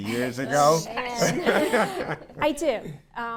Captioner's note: group laughs